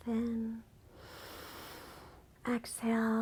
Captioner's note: inhales